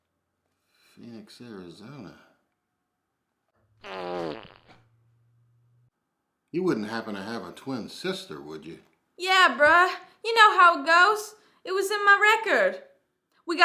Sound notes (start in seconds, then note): 3.8 Phoenix farts